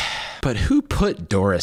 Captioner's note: deep breath, sigh